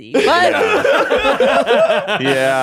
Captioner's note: all laughing